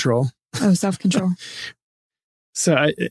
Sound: laughing

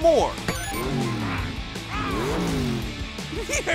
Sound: engine revving

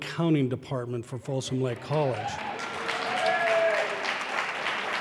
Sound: applause

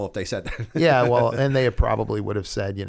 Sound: chuckle

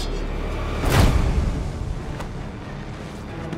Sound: thump

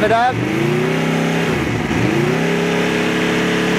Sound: motorcycle rev

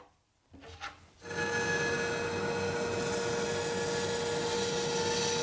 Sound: bandsaw whirring

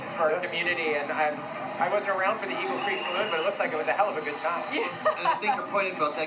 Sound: laughter

